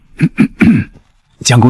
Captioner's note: cough cough